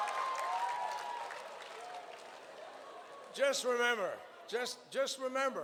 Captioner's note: cheers